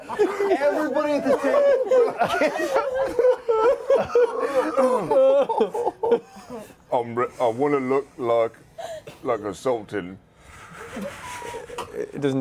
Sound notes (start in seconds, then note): 3.2 laughter